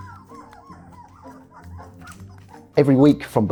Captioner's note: tiny puppy squeaks